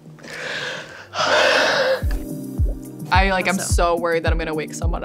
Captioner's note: everyone sighs